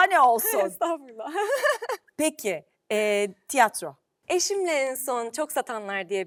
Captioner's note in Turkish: kahkaha